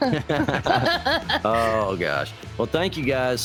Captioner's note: laughing